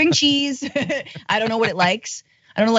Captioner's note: laugh